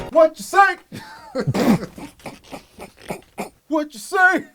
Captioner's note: laugh